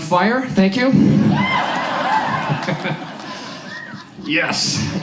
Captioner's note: audience laughs